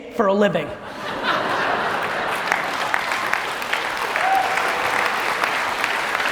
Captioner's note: audience laughter and applause